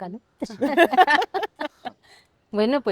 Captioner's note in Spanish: risas